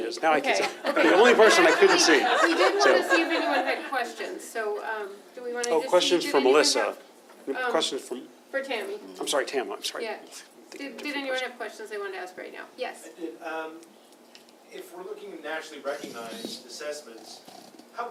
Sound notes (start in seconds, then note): 0.6 laughter